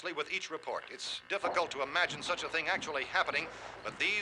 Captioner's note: thumping